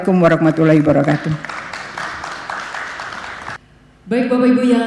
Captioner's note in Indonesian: tepuk tangan